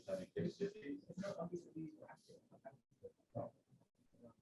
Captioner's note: student speaks faintly